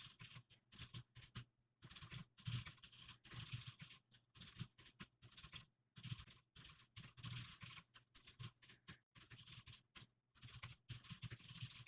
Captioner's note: typing sounds